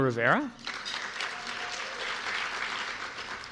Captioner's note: applause